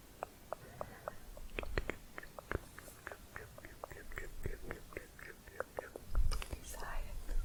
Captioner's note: tongue clicking